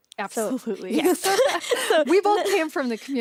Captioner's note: both laugh